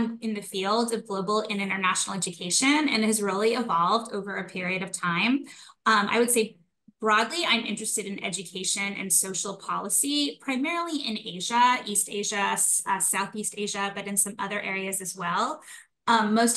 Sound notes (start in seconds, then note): none